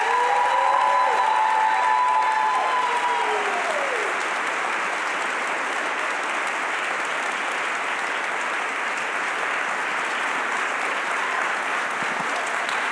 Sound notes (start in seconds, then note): 2.9 applause